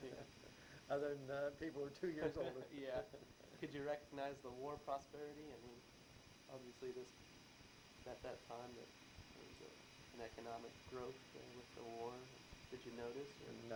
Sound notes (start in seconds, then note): 2.2 both laugh